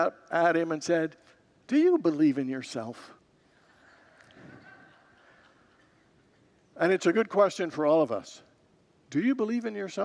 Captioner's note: congregants laugh